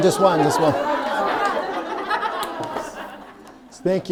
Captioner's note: audience laughing